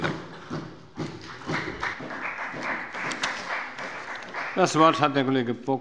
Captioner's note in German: Beifall bei der FDP und der CDU